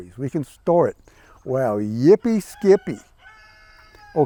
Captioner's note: rooster crows